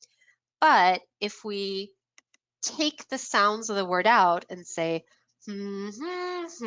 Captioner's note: humming